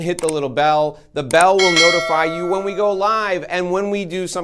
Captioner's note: bell rings